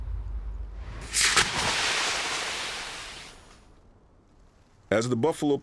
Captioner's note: brand sizzling